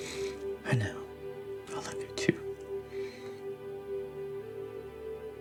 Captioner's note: cries; cries